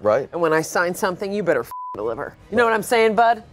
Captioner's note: beep